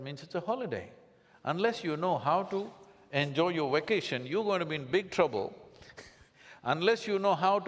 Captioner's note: laughs